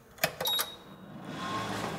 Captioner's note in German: Piepton